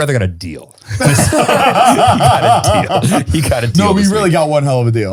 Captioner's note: all laughing